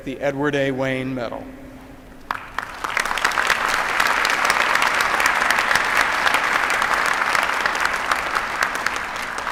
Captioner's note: applause